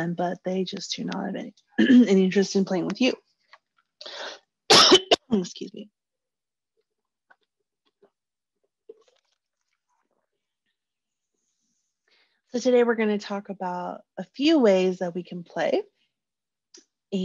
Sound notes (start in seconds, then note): 4.7 coughing